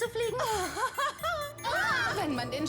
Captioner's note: laughs